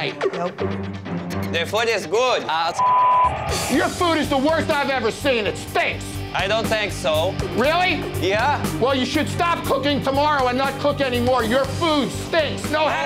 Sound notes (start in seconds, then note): 2.8 beeps